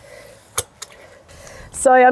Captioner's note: locking pin clicks